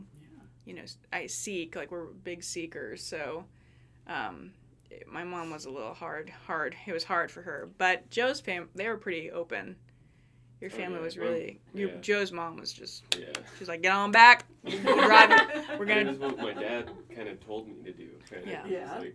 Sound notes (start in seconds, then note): 13.1 clapping; 14.7 everyone laughing